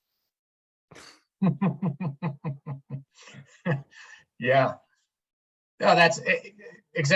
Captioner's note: laughs